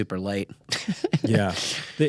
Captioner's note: chuckles